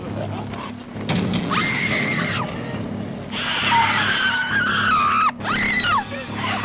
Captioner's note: screaming